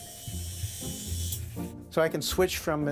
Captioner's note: electricity humming